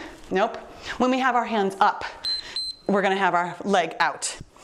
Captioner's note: timer beeps